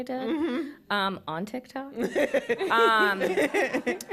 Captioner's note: laughter